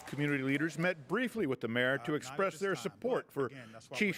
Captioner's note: applause